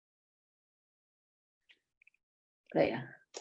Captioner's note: silence